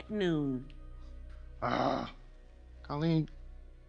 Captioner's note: groans